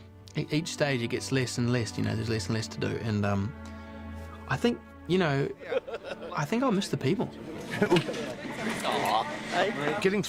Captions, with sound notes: ...but each day, it gets less and less, you know. There's less and less to do. And I think, you know-- I think I'll miss the people. [CHUCKLES] Aw....